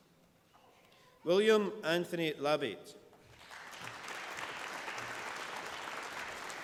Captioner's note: applause